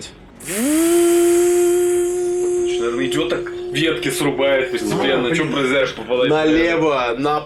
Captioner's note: chainsaw sounds